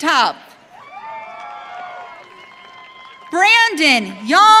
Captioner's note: audience cheering